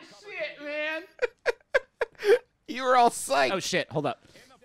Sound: laughing

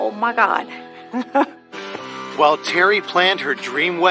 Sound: Vickiki g gigglglese

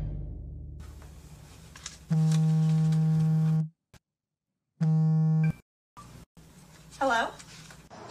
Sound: instrumental music; phone vibrating

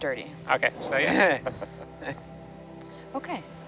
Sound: group chuckles

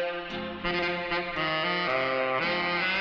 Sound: none

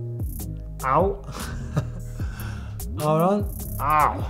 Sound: chuckles

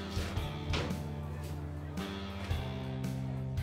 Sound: footsteps pattering; gentle rock music

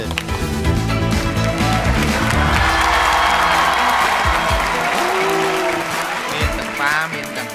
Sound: cheer and applause

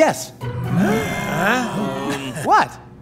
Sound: groaning

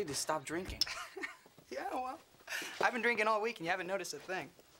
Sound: laughs

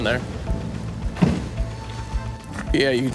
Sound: car door bangs

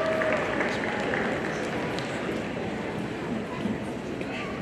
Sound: audience applauding

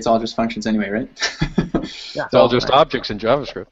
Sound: laughs

